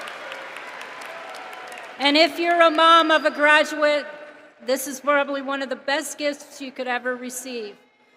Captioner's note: cheering